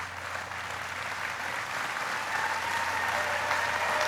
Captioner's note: applauding